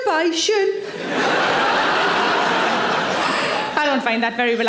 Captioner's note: audience laughing